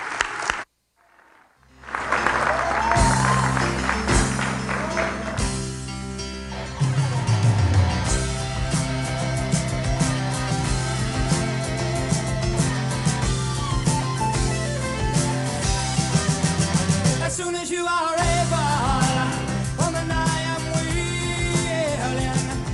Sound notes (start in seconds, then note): 1.0 applause; 1.0 cheers